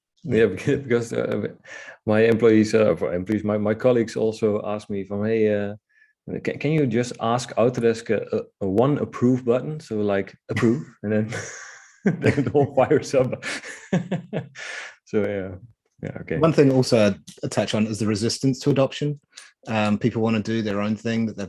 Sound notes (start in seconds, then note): 11.2 chuckling; 13.8 all laughing